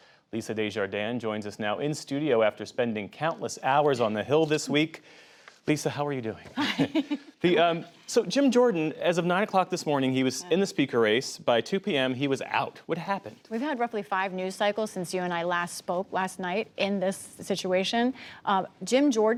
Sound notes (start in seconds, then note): 6.5 laughter